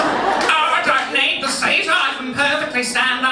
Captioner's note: audience laughing; mimics elderly voice